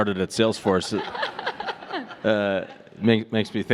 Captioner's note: all laughing